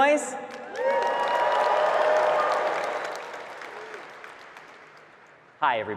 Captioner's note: marketers cheering and clapping